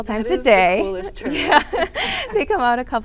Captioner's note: both laughing